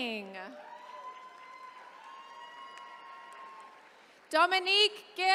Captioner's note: attendees cheering